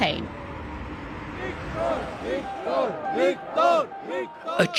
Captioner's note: chanting